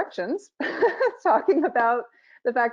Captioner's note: laughing